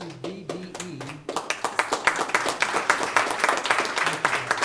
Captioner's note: applauding